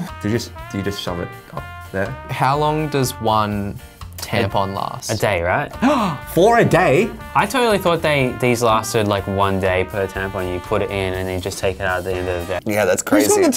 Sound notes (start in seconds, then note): 5.8 gasps